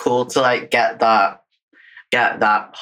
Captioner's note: laughs